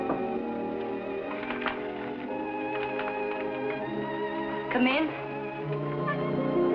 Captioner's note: knocking on door